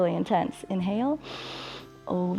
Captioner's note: exhales; inhales